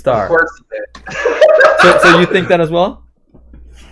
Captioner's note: laughs